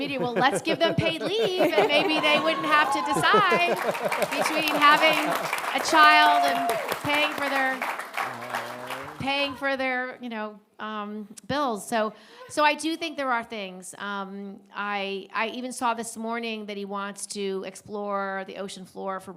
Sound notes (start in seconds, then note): 5.5 audience applauding